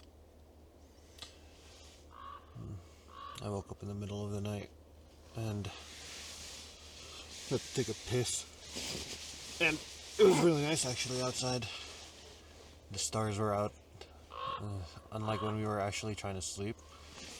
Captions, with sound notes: *crows caw* "I woke up in the middle of the night and-" "-to take a piss and" *grunts* "It was really nice actually outside" "The stars were out" "Uh *crows caw* unlike when we were actually trying to sleep"